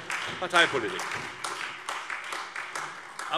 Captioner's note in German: Beifall Freie Demokraten, SPD und AfD